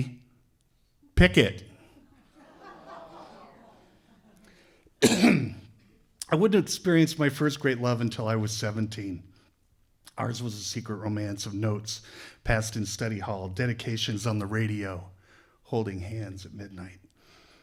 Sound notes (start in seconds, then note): 5.1 laughter